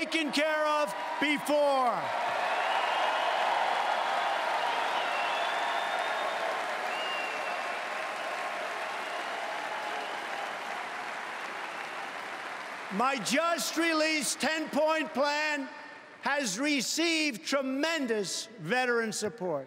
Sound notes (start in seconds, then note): 0.0 cheering and Applause; 8.9 cheering and Applause